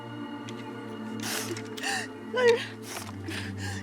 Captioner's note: gentle music; crying